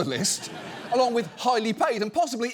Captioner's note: studio audience laughs